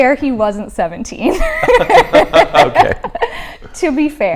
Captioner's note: both laughing